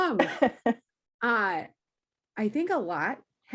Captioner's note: laughs